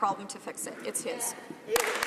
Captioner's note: some Applause